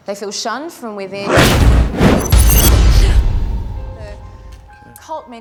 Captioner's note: air swooshing